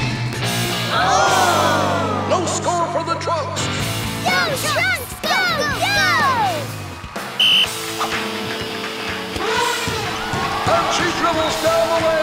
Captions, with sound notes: Looks like it's number four's turn! That's Peaknuckle's mommy! [blows whistle] [elephant horn] Whoa, she's gonna try to make t